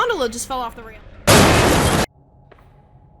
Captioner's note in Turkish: çat